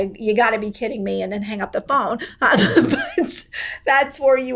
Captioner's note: laughs